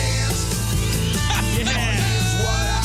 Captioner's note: laughing